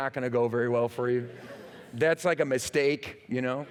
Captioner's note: laughter